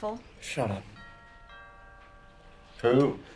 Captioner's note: DOORBELL RlNGlNG